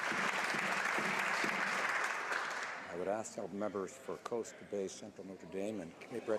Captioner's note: some Applause